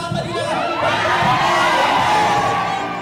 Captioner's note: cheers